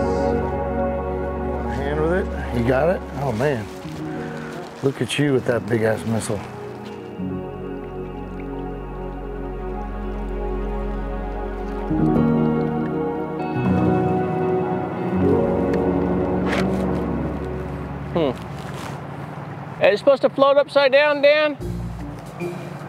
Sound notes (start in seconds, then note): 7.9 relaxed ambient music continuing; 14.2 boat engine purring